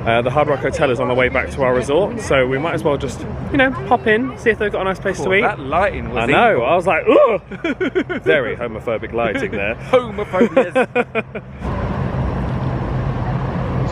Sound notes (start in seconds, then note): 7.1 both laughing; 9.1 laughs